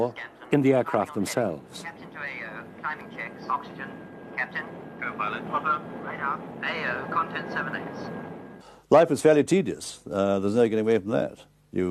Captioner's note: radio tower chatter